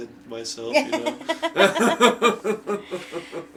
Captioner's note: laughing